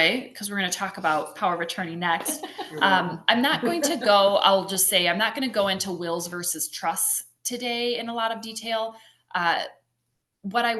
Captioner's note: laughter